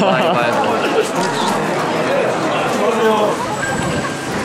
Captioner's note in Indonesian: Suara daun jendela menyapa mereka